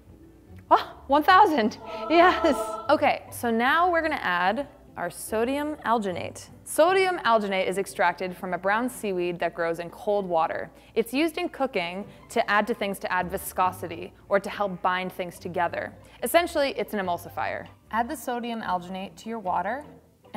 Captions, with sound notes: (gasps) 1000, yes. Okay, so now we're gonna add our sodium alginate. Sodium alginate is extracted from a brown seaweed that grows in cold water. It's used in cooking to add to things to add viscosity, or to help bind things together. Essentially, it's an emulsifier. Add the sodium alginate to your water,